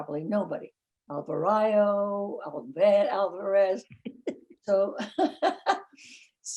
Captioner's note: laughing